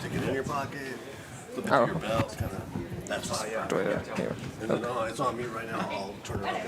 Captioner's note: background chatter; indistinct conversation